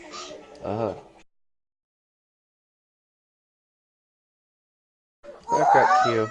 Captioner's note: silence